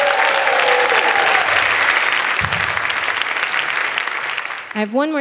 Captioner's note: audience clapping